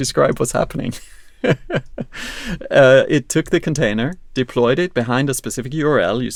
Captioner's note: laughs